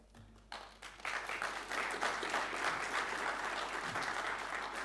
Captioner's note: audience applauding